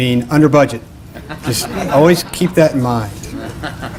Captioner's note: laughter